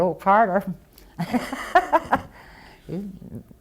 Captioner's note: laughter